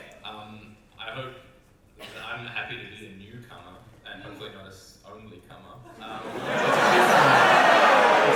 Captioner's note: audience reaction